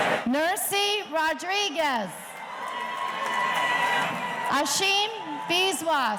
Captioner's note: audience cheering